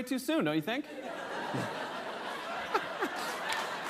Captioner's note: laughter; applause